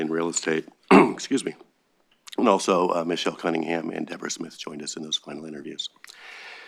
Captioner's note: cough